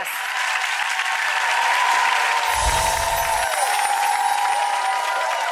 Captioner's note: audience applauds